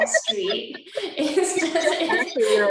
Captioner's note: laughter